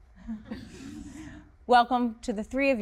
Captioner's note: interviewees laugh